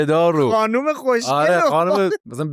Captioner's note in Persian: خنده